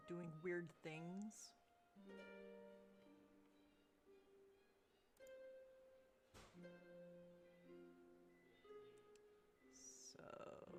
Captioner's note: mouse and keyboard clicking